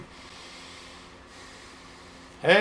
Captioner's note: sounds of inhaling and exhaling